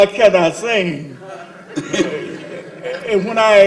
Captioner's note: laughter